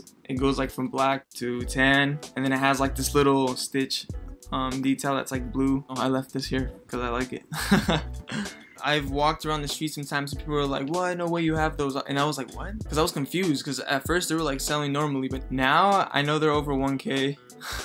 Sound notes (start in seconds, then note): 7.5 chuckles